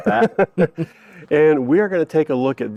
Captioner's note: both laughing